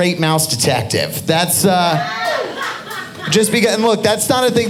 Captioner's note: audience laughing